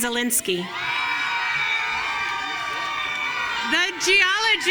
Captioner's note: audience cheering